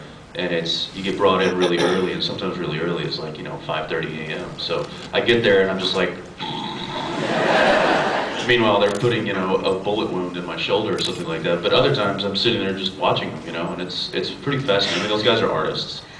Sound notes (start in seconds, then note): 6.7 snores; 6.8 laughs